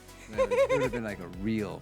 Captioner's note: laughing